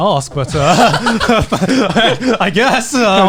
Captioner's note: hosts laughing